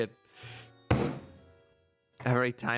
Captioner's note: slam